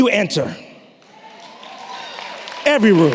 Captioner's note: applause